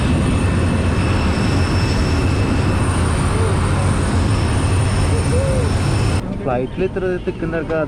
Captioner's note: aircraft sound